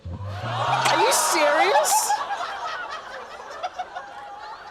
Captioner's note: exclamations, laughter; laughter